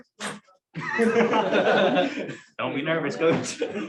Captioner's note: laughter